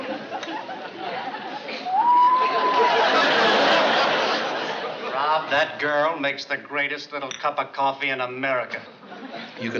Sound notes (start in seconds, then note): 1.9 whistles